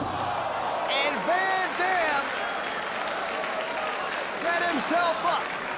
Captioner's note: spectators exclaiming; spectators applauding